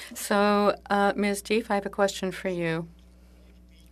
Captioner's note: speaking French